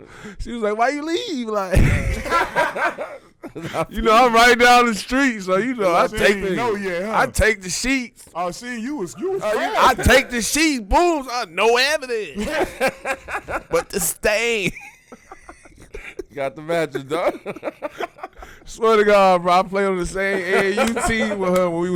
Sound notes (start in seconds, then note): 1.7 laughing; 12.1 laughing; 18.3 laughs